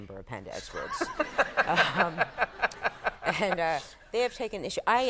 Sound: Conan laughing

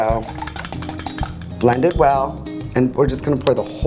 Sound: whisk clattering on glass

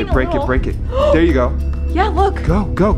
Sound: gasps

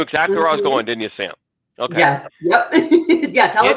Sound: chuckles

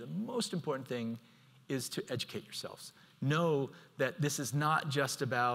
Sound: none

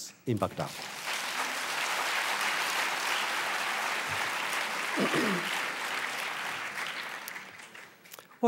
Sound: audience applause

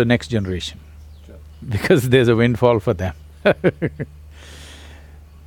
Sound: laughs

